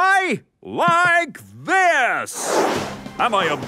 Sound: whooshing

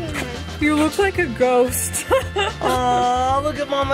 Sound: laughs

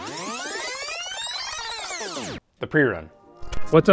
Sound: high pitched sound

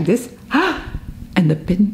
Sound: inhales sharply

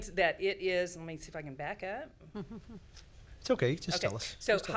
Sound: laughs

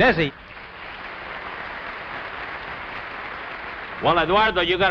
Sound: audience applauds

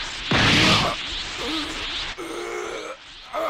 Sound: KOGU gasps in pain

